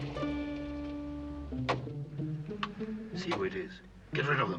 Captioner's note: car turning off; car door slamming